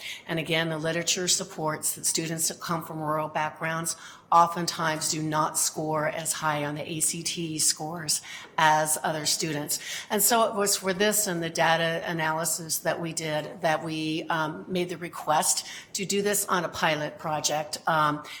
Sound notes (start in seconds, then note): none